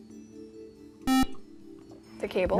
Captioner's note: buzzer